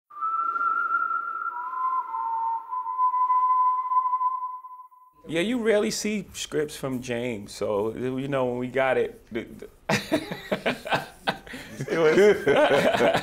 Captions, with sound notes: Yeah, you rarely see scripts from Jeymes, so, you know, when we got it, (LAUGHS) (LAUGHTER)